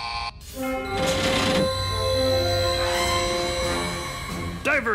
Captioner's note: humming machinery; buzzing noise